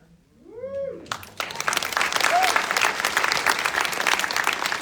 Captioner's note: audience applauding